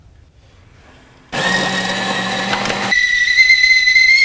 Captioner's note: sound of grinding coffee beans; sound of tea kettle